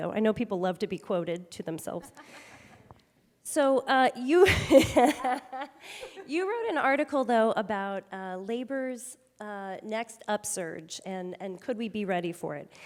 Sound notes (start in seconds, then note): 4.5 chuckles